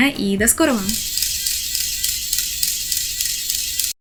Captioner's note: sounds of a neighbor's drill, if your neighbors were fairies